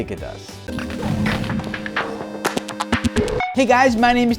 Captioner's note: electronic sounds